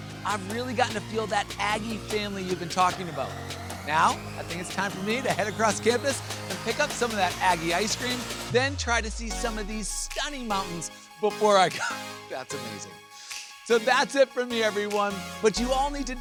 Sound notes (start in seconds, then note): 12.0 chuckles